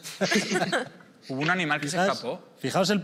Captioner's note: laughter